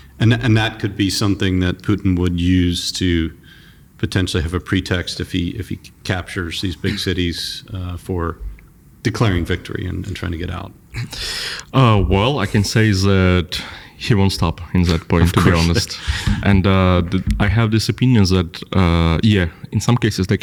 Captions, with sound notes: And that, and that could be something that Putin would use to potentially have a pretext if he, if he c-captures these big cities, uh, for declaring victory and, and trying to get out. Uh, well, I can say is that he won't stop in that point, to be honest. Of course. [laughs] And, uh, the-- I have this opinion that, uh, yeah, in some cases, they